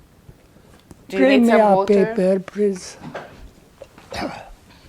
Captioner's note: coughing